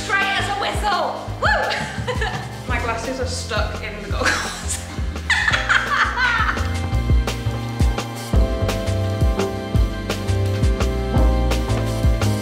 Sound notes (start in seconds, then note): 5.2 laughing; 7.0 mellow music continues